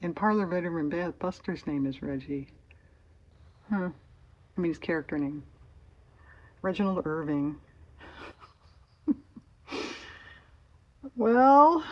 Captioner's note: laughs